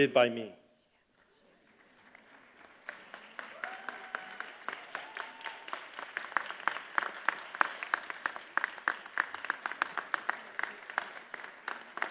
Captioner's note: applause